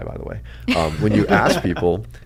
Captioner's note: both laugh